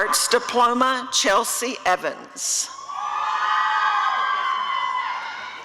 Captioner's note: applause and cheering